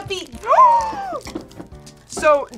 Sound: gasps

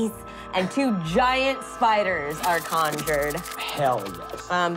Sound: skittering

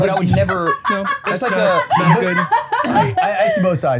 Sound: laughs

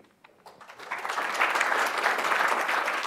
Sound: applause

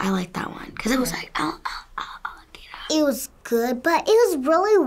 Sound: whispers

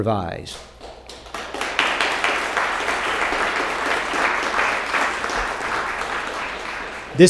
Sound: applause

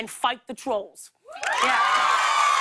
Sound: cheers and applause

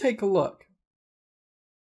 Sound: silence

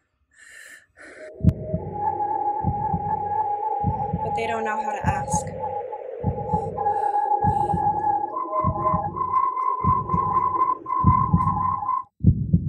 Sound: whirling wind tones; ♥Heartbeat.♥

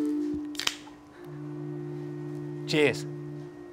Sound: can top snaps

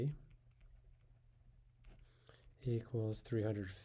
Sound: pen scratching on paper

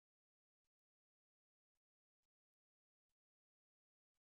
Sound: none

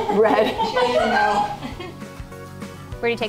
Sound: laughter

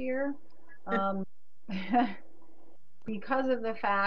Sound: chuckles

